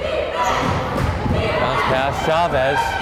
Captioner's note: crowd chanting defense